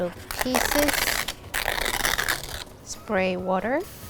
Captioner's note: tearing